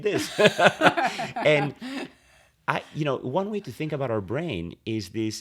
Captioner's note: laughter